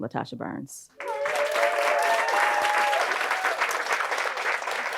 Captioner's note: audience applauding